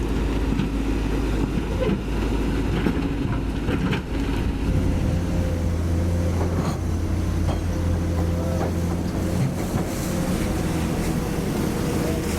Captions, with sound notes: [Rumble] SANY SCC600A-5 Crane Lift Deploying 7-Ton Concrete Tetrapod